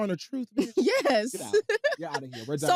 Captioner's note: laughs